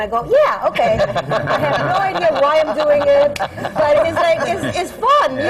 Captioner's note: laughter